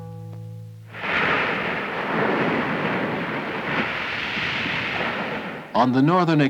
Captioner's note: waves crashing on the shoreline